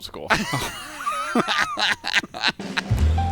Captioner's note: laughter